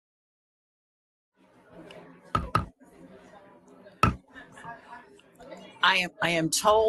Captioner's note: gavel banging